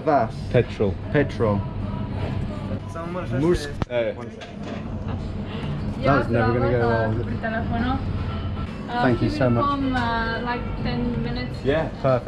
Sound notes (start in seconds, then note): 2.7 speaking in a foreign language